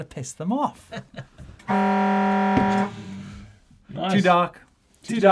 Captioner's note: alarm wailing